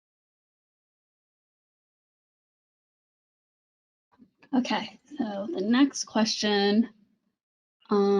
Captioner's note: silence